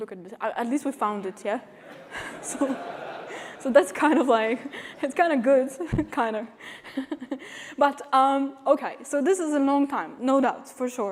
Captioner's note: laughter